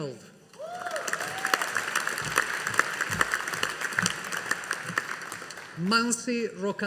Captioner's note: audience applauding